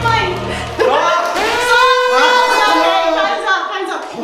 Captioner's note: alarm buzzing